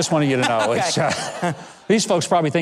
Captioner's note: laughing